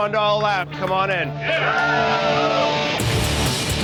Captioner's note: cheering